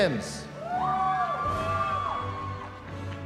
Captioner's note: cheering